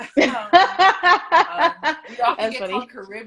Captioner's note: both laugh